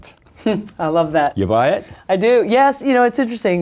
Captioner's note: chuckles